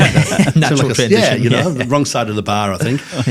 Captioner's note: hosts laughing